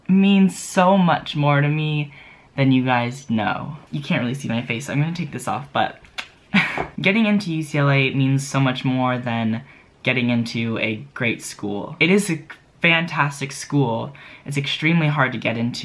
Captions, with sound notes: means so much more to me than you guys know. You can't really see my face so I'm gonna take this off, but *kiss* Getting into UCLA means so much more than getting into a great school. It is a fantastic school; it's extremely hard to get into.